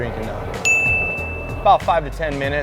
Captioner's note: bell dings